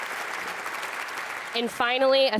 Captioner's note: audience applauds